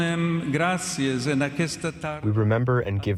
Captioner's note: through translator